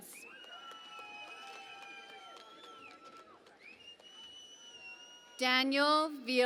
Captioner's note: cheering and Applause